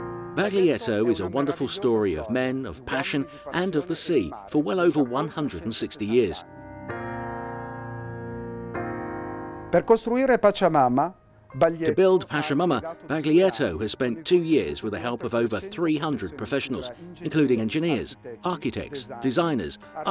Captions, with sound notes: Baglietto is a wonderful story of men, of passion, and of the sea, for well over 160 years. (speaking foreign language) To build Pachamama, Baglietto has spent two years with the help of over 300 professionals, including engineers, architects, designers,